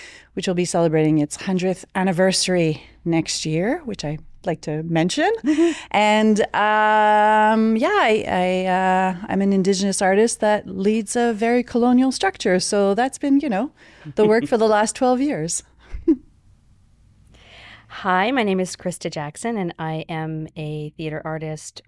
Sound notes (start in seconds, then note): 14.0 chuckles; 16.8 chuckles